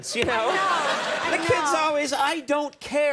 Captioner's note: audience laughing